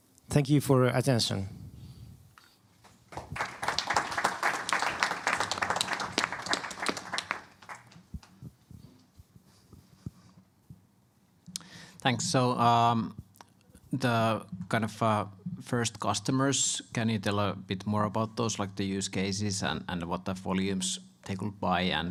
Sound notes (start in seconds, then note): 3.0 applause